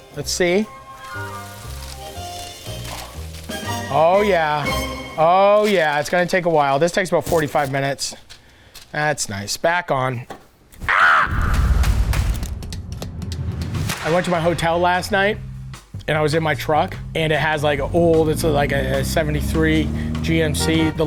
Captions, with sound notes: Let's see. (bacon sizzles) Oh yeah, oh yeah, it's gonna take a while. This takes about 45 minutes. That's nice, back on. (Matty screams) (energetic music) I went to my hotel last night, and I was in my truck, and it has like a old, it's like a a 73 GMC.